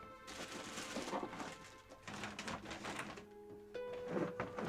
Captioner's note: paper rustling